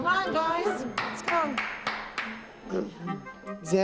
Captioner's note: mid-tempo music plays; clapping